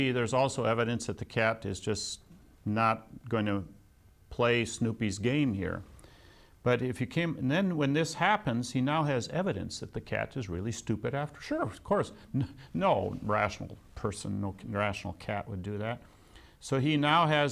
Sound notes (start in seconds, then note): 12.3 laughs